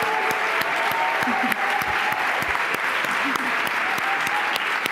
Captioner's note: applause